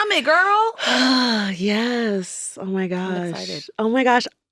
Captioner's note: sighs